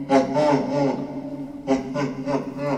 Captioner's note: man laughing